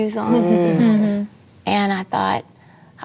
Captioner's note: murmurs of agreement